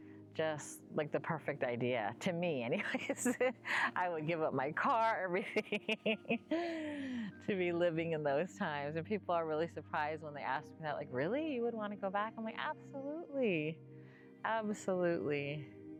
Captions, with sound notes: just, like the perfect idea to me anyways [laughs] I would give up my car, everything [laughs] to be living in those times. And people are really surprised when they ask me that, like really, you would want to go back? I'm like, absolutely, absolutely.